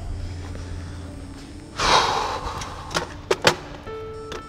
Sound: sighs

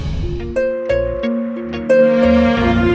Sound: car approaching

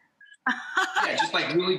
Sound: Rachael laughs

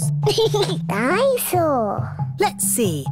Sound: giggles

